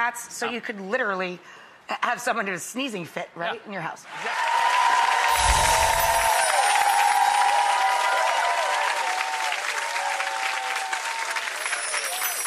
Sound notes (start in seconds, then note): 4.7 audience cheering; 5.3 mystical bells chiming